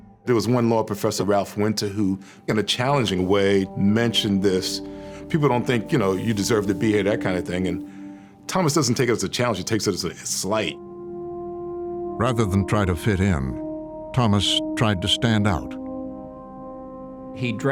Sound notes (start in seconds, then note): none